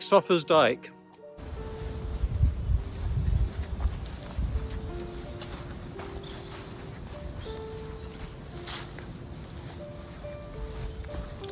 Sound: breeze and footsteps

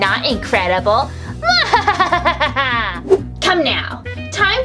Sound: evil laughing

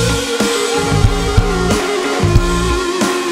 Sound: audience cheers

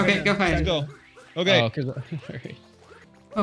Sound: laughs

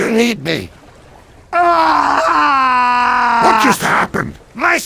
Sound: cries

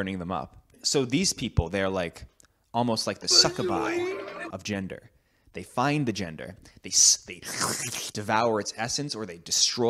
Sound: slurping noises

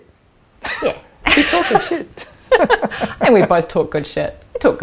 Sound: chuckling

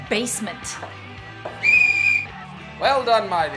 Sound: whistle shrills

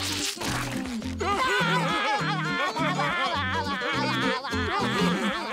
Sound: laughing

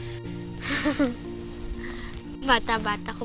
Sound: chuckles

